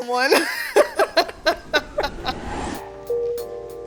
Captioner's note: both laughs; upbeat music